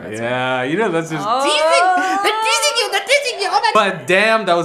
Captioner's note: exclaiming excitedly